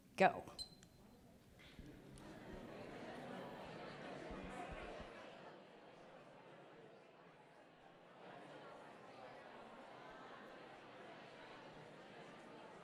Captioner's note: background Conversation